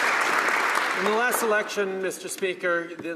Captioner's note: applause